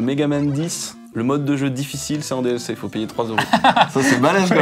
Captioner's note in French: rire